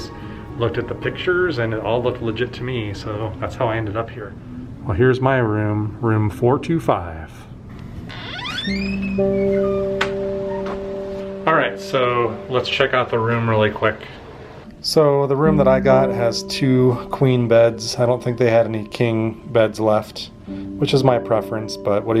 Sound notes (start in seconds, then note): 8.0 creaking